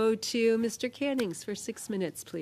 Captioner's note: speaking French